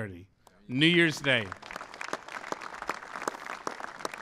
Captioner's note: applause